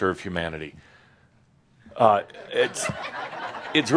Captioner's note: some chuckles